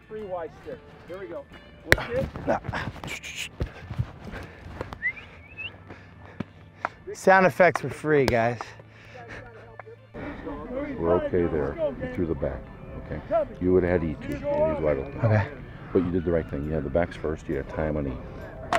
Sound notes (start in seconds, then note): 2.7 heavy breathing; 4.9 whistling